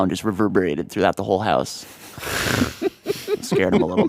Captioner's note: laughs